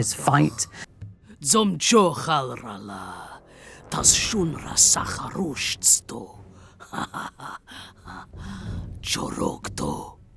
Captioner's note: speaking Orcish